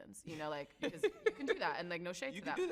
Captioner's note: laughs